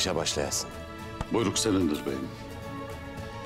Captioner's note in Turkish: El vurma sesi